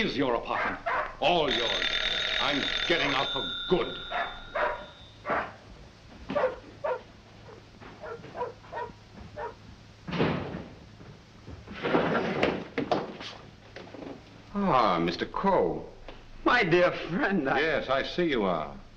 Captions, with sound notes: apartment, all yours! I'm getting out for good! [dog barking] [door opens] Ah, Mr. Coe. - My dear friend, I-- - Yes, I see you are!